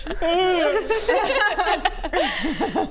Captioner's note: mean girls laughs